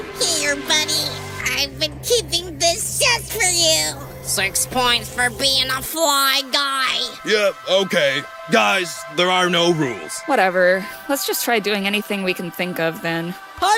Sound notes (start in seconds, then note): none